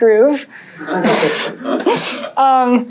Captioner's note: laughter